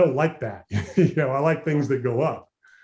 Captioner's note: laughs